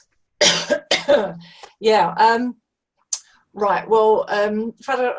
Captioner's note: coughs